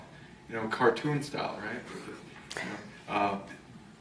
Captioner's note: small laugh off camera